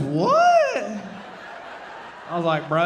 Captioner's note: audience laughing